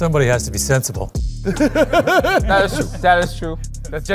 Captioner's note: laughter